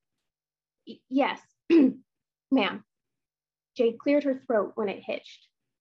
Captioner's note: clears throat